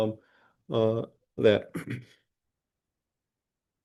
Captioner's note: throat clearing